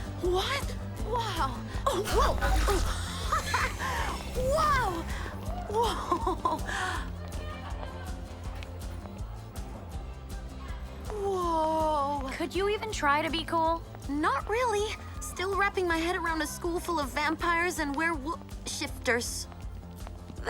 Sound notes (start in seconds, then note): 1.9 Mischa laughs; 7.7 upbeat music